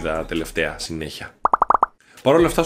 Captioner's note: suction cup sounds